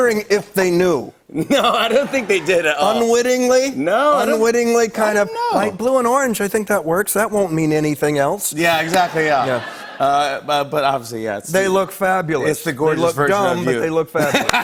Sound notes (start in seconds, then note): 8.9 laughter